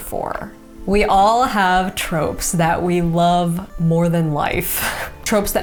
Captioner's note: chuckles